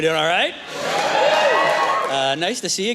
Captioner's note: cheers